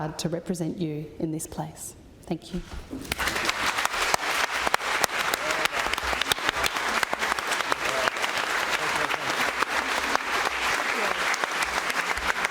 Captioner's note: applause